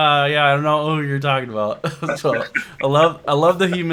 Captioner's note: chuckles